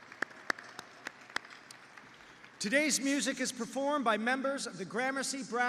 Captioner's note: applause